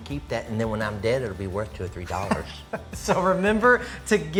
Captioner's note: laughs